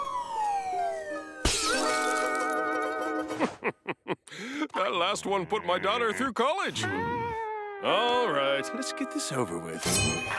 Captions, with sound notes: [shattering] [chuckles] That last one put my daughter through college. All right, let's get this over with.